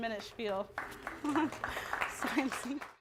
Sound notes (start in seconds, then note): 0.1 applause; 1.0 laugh